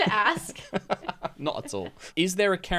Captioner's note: laughs